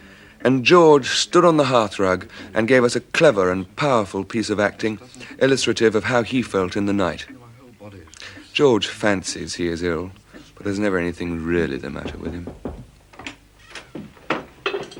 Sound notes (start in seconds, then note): 11.9 knocking on door